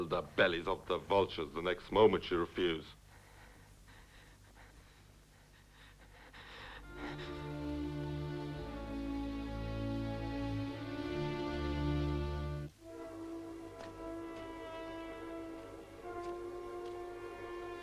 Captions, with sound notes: the bellies of the vultures the next moment you refuse. (Hundra's breath trembles) (Dramatic music)